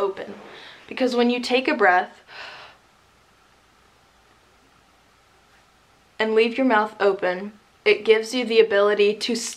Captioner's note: inhales